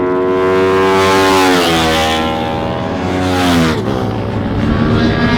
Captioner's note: motorcycles racing